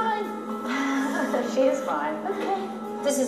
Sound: laughing

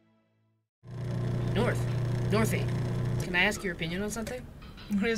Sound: ambience - Coffee Shop

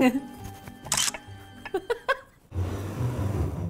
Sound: camera clicking; suspense music

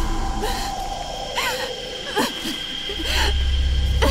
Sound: girl sobbing

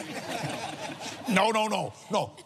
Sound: laughs

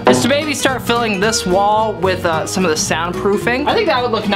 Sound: none

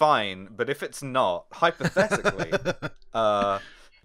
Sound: laughter

